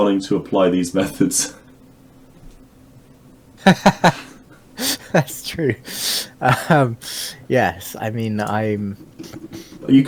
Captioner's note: laughing